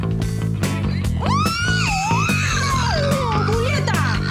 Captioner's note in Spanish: Gruñen